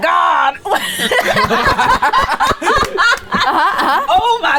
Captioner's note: everyone laughing loudly